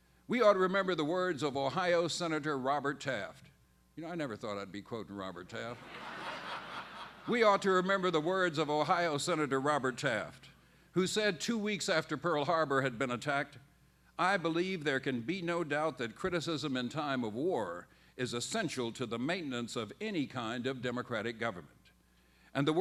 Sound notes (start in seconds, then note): 5.7 laughter